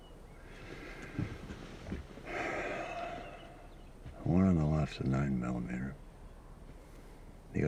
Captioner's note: sighs